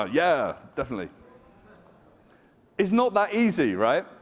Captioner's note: audience chattering